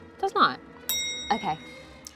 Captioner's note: bell clicking sound